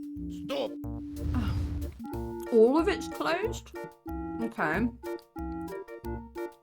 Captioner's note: sigh